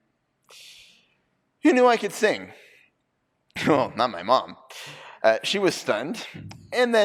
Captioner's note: none